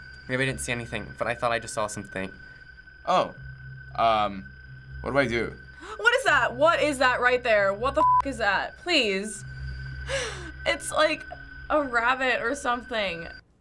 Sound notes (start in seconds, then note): 5.6 startled gasp